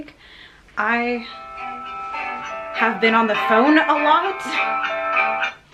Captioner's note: phone rings